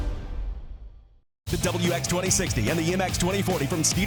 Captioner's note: voiceover